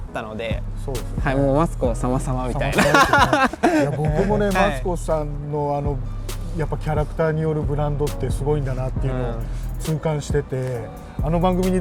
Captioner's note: on TV